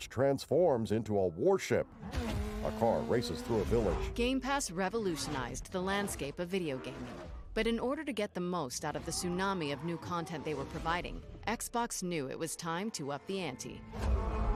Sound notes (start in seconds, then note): 1.9 car motor roaring